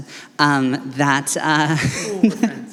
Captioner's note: laughter